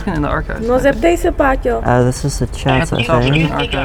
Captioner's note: person speaking in foreign language